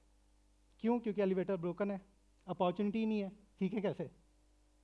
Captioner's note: non-english speech